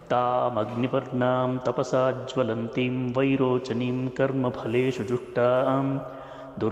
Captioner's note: presenter chanting in foreign language